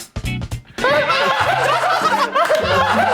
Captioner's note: Melolong dengan tawa